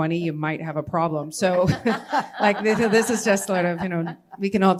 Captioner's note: laughter